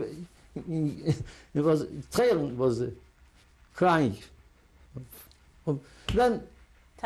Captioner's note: laughs; non-english